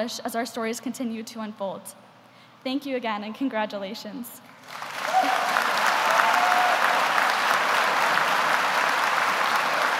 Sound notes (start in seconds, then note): 4.6 audience applauding